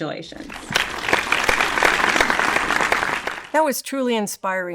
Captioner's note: audience applauds